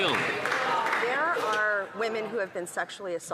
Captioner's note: some Applause